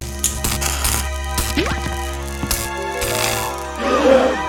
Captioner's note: ghosts: *Gasp